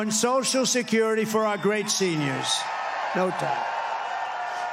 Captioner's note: applause